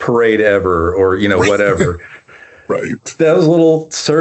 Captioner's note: laughs